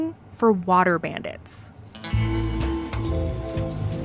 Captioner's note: rumbling of driving car